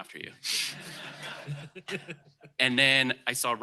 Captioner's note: laughter